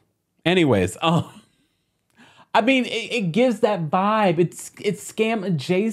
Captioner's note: laughing